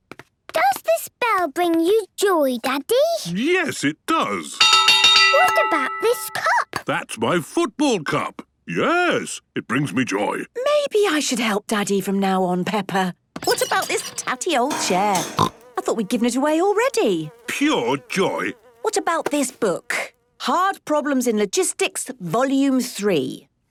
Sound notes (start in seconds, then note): 4.6 clanging; 14.7 snorting